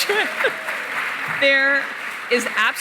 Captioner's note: cheering, applause